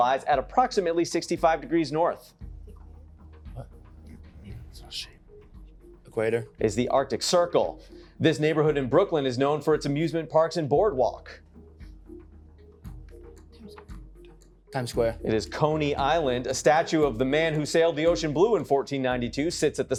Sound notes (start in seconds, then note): 3.4 whispering